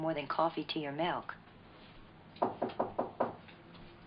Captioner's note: knocking on door